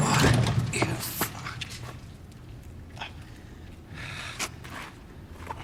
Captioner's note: Robert breathing heavily; breathing heavily